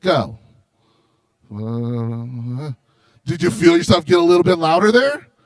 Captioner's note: mutters